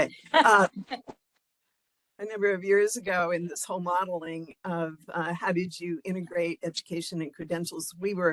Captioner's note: laughing